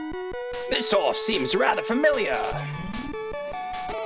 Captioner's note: fancy voice